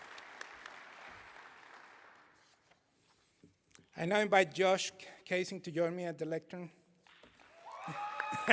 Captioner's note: applause